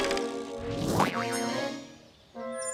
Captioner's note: whooshing; boing